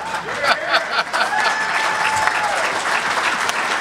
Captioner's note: laughter; crowd clapping